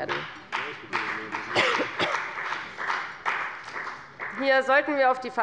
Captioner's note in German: Beifall bei der FDP